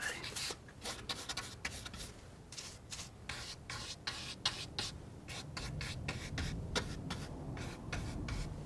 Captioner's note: scratching